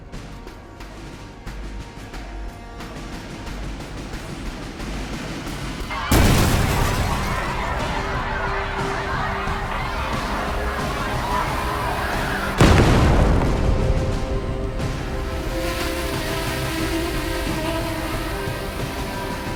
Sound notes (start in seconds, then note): 5.9 explosion